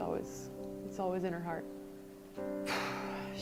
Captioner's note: sighs